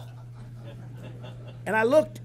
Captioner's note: laughter